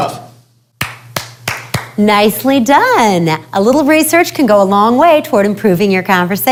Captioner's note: clapping